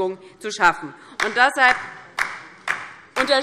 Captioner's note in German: Beifall DIE LINKE